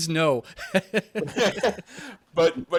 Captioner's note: all laughing